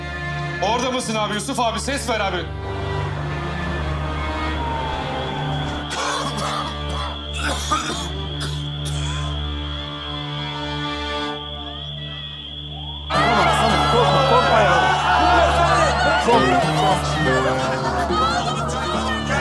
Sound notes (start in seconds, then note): 5.9 cough; 8.3 alarm